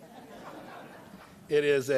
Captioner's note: laughter